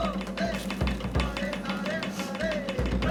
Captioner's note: tool patters